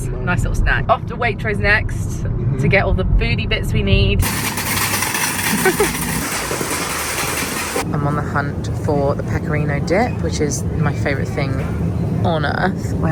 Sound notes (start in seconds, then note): 4.2 cart clattering; 5.6 laughs